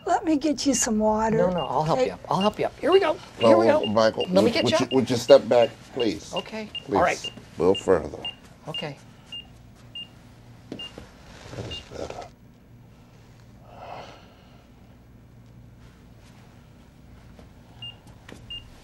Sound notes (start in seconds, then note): 9.9 beeping slows, then stops; 16.9 beeping starts